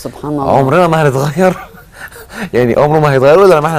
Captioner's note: laughs!